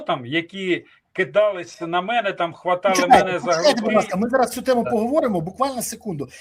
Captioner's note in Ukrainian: сміх